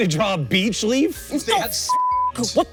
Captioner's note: beep